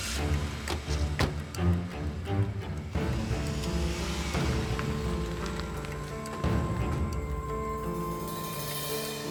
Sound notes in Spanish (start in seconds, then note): 2.1 Ruidos al irse